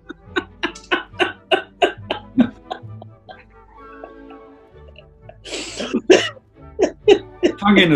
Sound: laughing

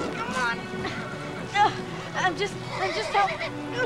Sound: straining

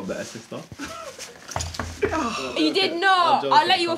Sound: knock at door

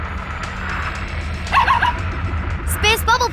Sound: barking

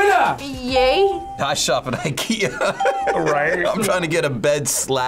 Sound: laughs

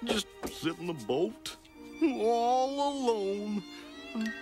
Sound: voice sad

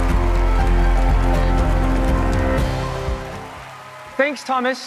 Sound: cheering and applause

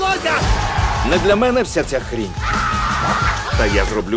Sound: screaming

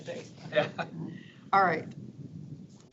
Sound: laughs

